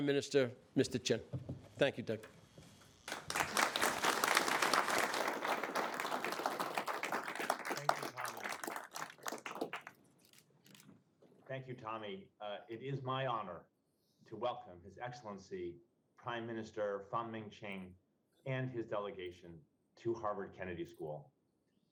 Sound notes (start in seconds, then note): 3.0 audience applauds